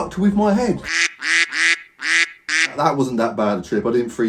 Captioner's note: duck quacking